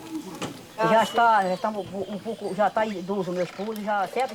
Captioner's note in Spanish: <i>habla en portugués